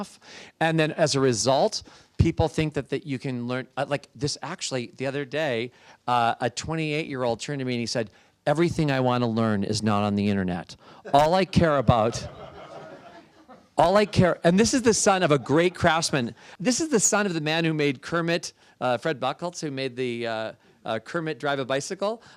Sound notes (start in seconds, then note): 12.0 laughter